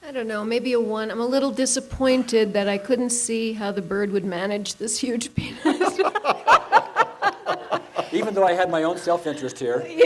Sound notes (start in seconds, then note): 5.6 laughing; 5.7 laughs